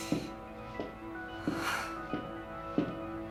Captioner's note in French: soupirs